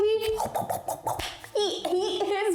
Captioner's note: gobbles